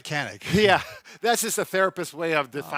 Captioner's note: laughs